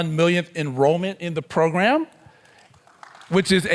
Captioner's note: attendees clapping